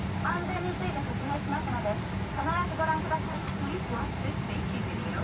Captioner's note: air hostess speaking in a foreign language